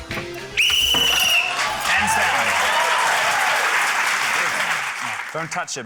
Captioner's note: blows whistle; cheering, applause